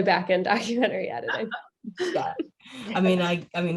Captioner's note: laughs